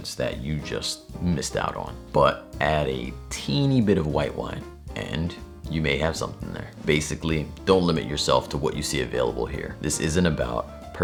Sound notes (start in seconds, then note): none